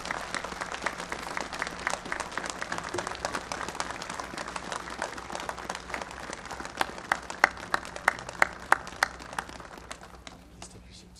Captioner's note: applause